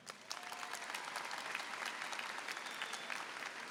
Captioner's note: applause